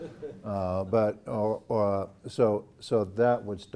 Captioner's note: laugh